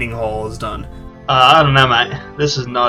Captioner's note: Australian accent